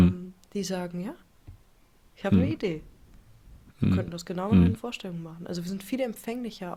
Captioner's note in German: räuspern